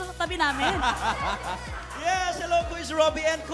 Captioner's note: robi laughs